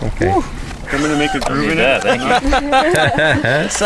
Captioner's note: laughing